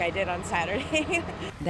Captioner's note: laughter